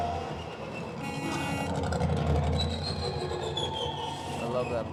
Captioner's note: horn Honks